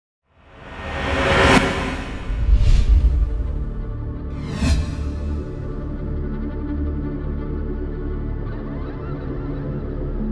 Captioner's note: animation sound